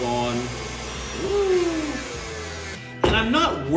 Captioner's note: mixer whirring